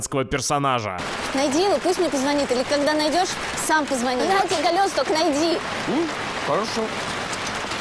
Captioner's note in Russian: шум дождя